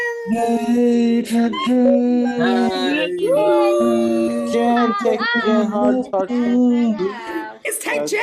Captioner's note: cheering